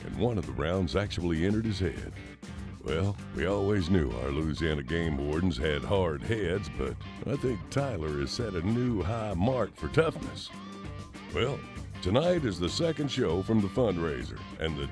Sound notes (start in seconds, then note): none